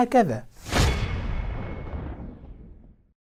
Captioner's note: sound effect